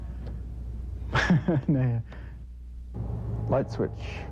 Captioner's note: laughs